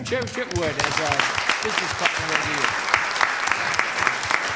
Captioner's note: applause